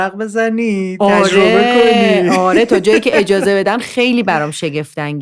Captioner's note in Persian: خنده